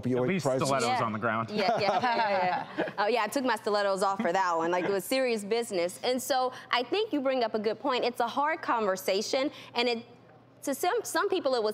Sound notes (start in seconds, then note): 1.5 laughter